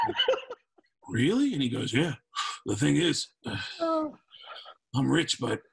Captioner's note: laughter